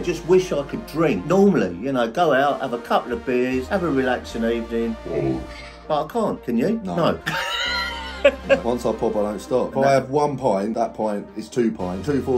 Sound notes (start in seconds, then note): 7.2 father laughing